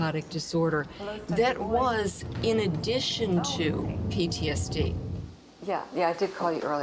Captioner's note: speaking faintly